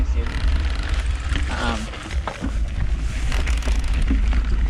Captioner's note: dirt rustling; bike ratchets